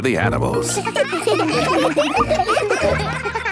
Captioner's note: children laughing